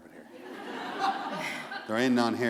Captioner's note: laughter; chuckle